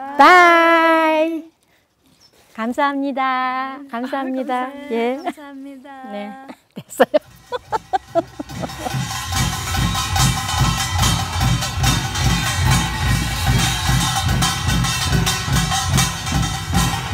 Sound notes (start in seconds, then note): 2.8 speaking foreign language; 5.9 laughs